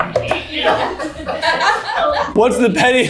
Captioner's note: everyone laughing